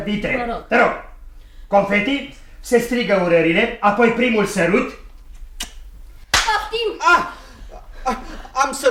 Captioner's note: sound of a slap across the face